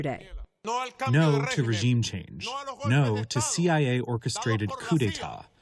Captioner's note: through translator